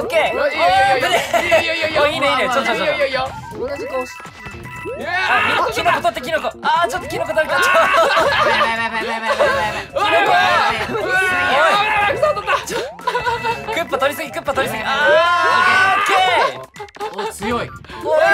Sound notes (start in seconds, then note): 2.6 quietly